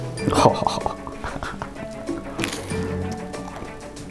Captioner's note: chomping